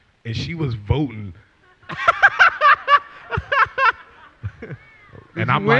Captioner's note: laughter